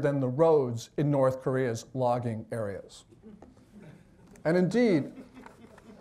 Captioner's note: audience chuckles